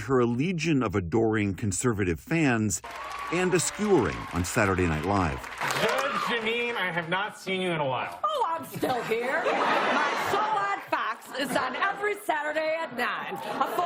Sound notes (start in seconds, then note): 8.6 laughter